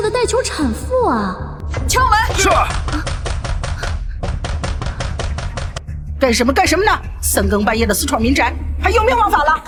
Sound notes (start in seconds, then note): 1.7 knocking